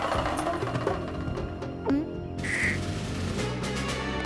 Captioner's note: gulps